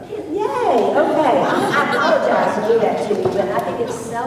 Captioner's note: laughter